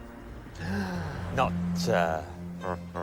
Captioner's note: gasps